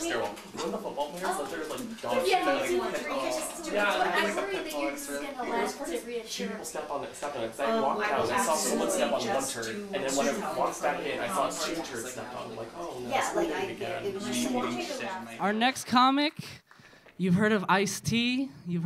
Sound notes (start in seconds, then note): 4.8 men mumbling quietly; 7.7 women chattering